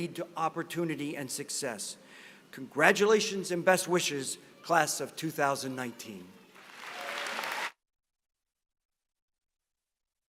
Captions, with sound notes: to opportunity and success. Congratulations and best wishes, class of 2019. [APPLAUSE]